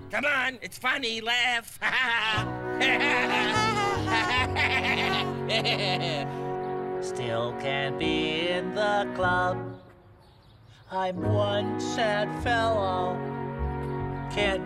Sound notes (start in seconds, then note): 1.7 laughs; 3.2 birds laugh